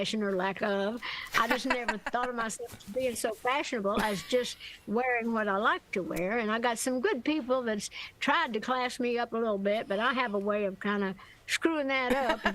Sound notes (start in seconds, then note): 1.4 laughter